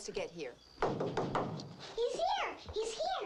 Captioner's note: door knocking